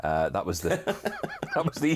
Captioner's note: laughing